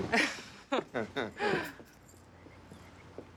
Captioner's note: both chuckle